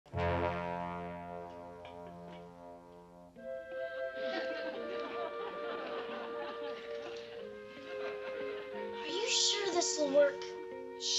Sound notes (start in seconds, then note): 0.0 intense music; 4.2 audience laughs